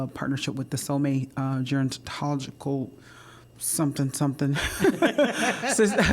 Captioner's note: laughter